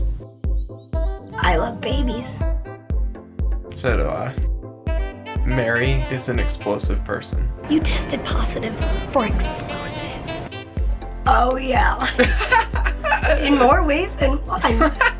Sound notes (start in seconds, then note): 12.0 laughter